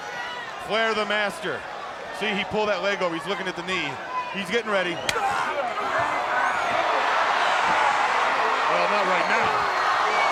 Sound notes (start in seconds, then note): 5.0 chop striking; 6.6 crowd cheering